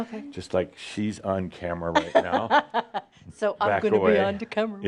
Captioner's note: she chuckles